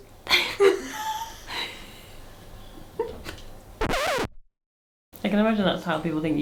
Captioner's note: laughing